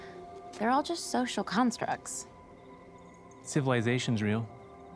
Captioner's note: none